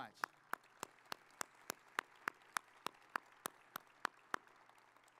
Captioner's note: audience applauding